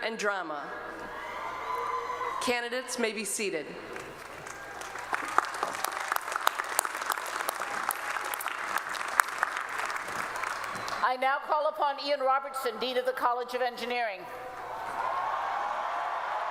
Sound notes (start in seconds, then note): 3.9 applause